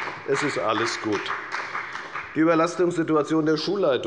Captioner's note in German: Beifall bei der FDP